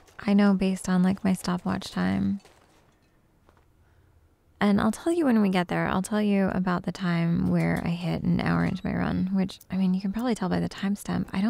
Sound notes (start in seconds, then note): none